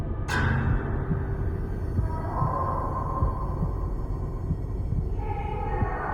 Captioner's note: gate slamming shut; ghostly voices